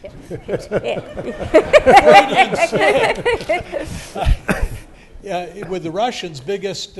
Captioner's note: everyone laughing